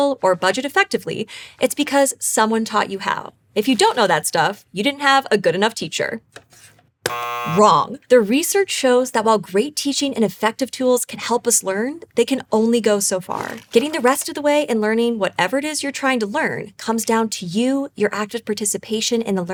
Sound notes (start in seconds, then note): 7.0 buzzer sound